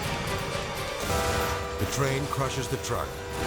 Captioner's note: train horn blaring